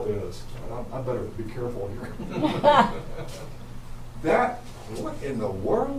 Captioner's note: you can hear laugh in the background and everyone else laughs